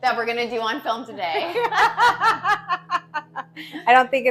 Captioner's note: laughing